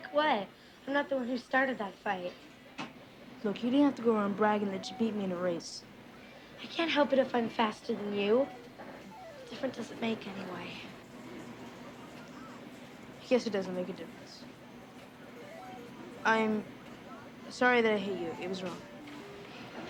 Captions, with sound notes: I could beat you any day. Quit pushing me. Don't tell me what to do. I'll push any time I want to. [kids yelling]